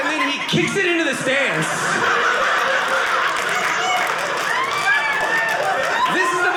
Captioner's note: audience laughing